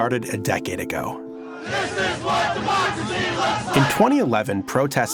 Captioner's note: protesters chanting